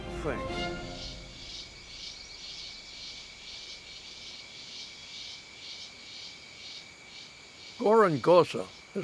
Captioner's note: insects chirping